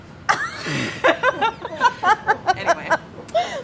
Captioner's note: laughing